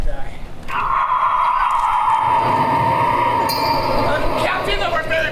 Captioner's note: wind howls ominously